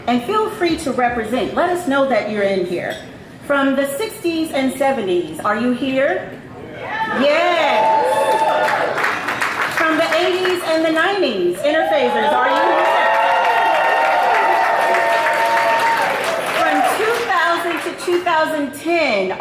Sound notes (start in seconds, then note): 8.2 audience applauds; 12.3 audience applauds